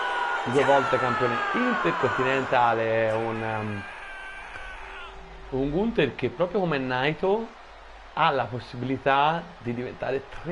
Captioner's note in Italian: urlo